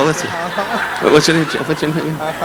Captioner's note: affirming